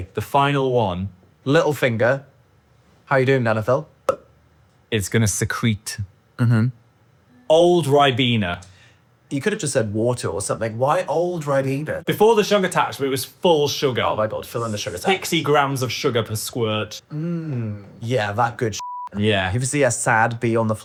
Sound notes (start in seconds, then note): 4.0 pops; 18.8 beep